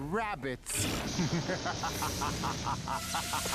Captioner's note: laughs fiendishly